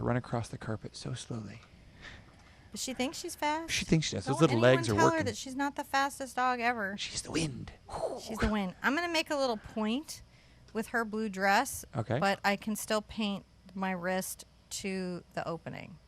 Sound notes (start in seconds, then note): none